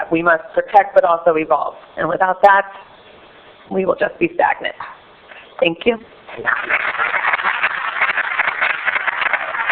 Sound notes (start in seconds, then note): 6.4 applause